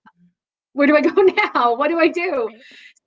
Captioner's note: laughs